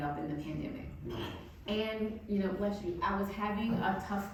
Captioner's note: audience member sneezing